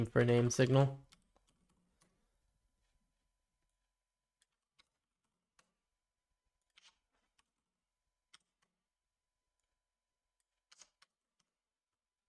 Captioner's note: silence